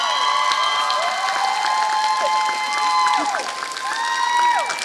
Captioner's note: applause